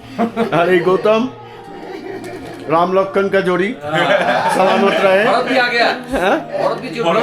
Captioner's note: loud laughter